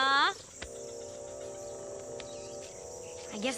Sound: crickets

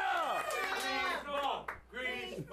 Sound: audience cheering

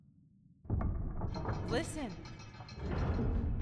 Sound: mechanical noise

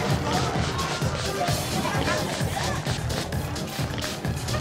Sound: perfume spraying; upbeat music

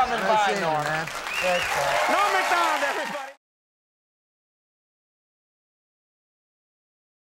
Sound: audience applauding

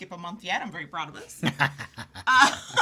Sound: laughing

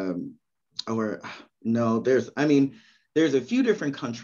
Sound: sighs

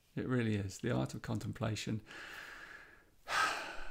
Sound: makes a deep sigh

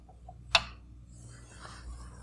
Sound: click

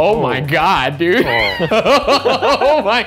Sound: laughter

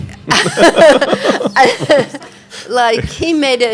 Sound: laughing

